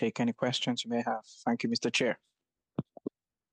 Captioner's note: speaking French